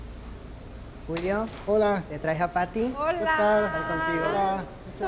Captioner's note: speaking Spanish